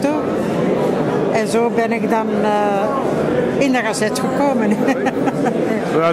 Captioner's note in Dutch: lacht